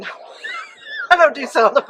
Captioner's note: laughs